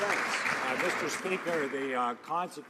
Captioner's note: some Applause